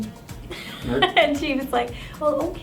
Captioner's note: laughing